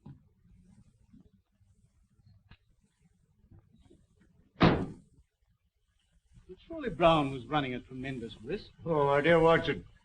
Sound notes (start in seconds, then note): 4.6 car door slamming